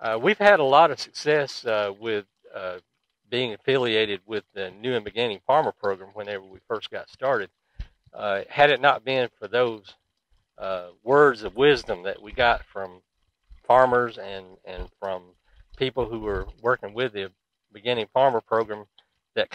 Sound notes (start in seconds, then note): 7.7 swing clicking